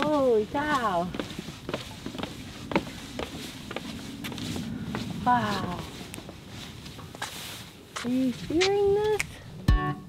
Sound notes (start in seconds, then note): 1.8 feet scraping